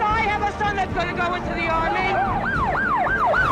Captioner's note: sirens wailing